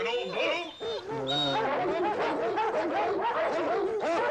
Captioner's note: barking